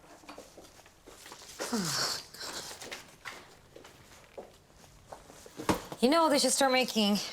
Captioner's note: footsteps fall